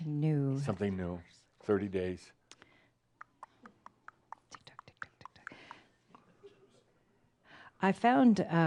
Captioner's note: makes a tick-tock sound of a clock